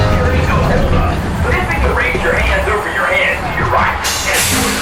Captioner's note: roller coaster whooshing; upbeat music